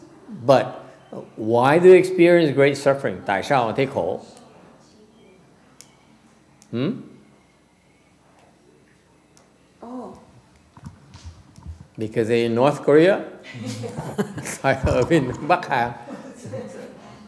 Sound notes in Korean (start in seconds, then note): 13.5 웃음